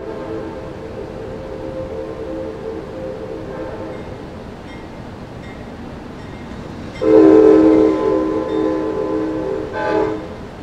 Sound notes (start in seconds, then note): 0.0 train horn; 5.4 bell clangs